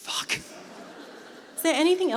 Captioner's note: laughter